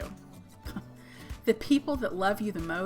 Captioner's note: chuckles